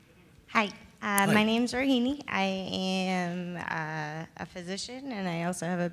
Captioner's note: voiceover